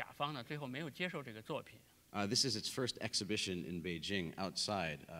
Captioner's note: speaking in Chinese